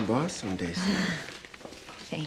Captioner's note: chuckles